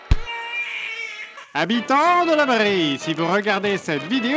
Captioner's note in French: Voix de propagande